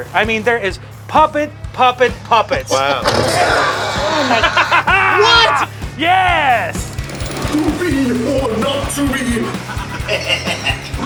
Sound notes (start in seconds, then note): 3.2 scream; 9.6 evil laugh